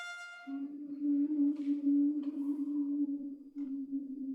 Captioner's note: woman humming